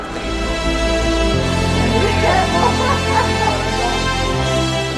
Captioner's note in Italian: risate